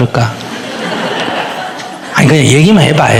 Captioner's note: audience Laughter